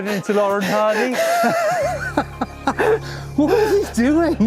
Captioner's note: laughing